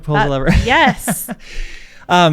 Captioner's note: chuckles